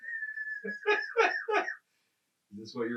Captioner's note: laughing